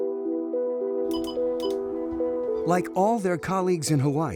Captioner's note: thoughtful music; radio beeping